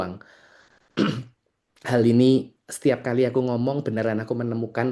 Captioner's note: berdehem